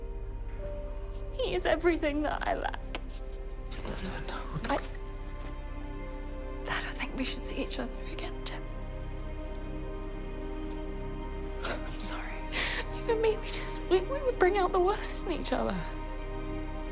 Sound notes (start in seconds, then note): 11.0 sobs